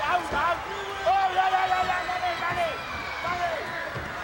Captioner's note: Afa shouting